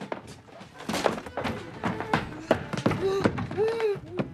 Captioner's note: Helen Banging On Door